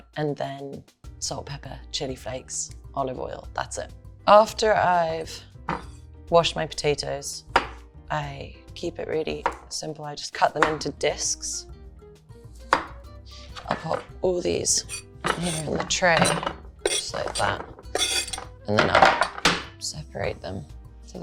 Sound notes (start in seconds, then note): 12.4 knife tapping